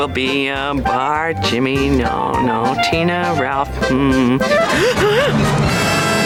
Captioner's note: gasping